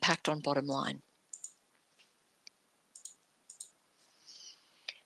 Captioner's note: mouse clicking